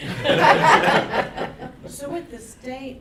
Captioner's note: laughing